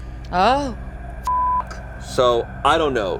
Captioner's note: beep